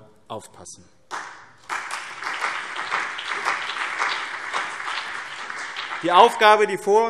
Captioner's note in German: Beifall BÜNDNIS 90/DIE GRÜNEN und CDU